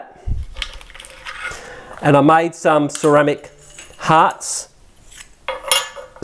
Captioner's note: clanking